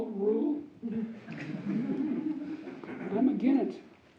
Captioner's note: audience laughs